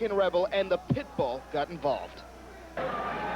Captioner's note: crowd chatter